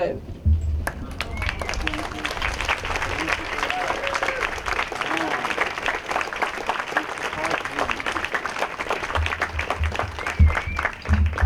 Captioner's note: applause